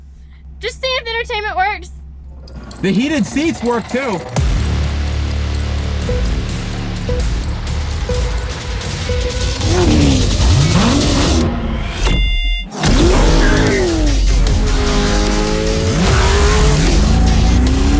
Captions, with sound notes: - Just seeing if the entertainment works. - The heated seats work too. (electronic beeping) (engine revs) (tires screech)